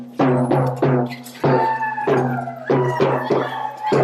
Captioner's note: drumming and cheering